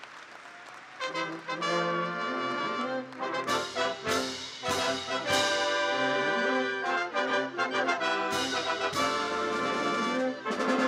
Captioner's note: applause